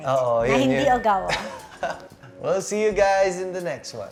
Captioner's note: laughs